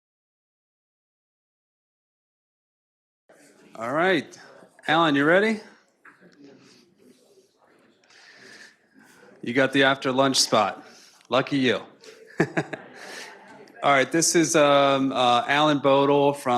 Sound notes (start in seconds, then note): 12.0 laughing